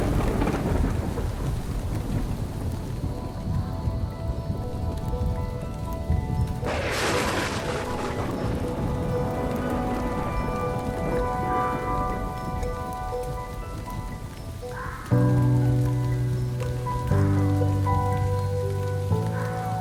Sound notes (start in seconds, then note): 0.1 thunder crashing; 3.5 gentle orchestral music; 7.1 thunder crashing; 12.0 gentle orchestral music continues